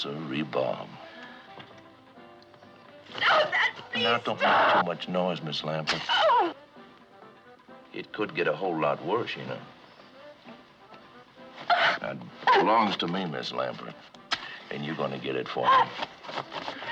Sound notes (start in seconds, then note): 7.7 whimpers; 11.6 gasps; 16.7 gasps